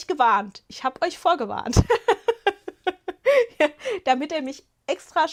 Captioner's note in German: Gelächter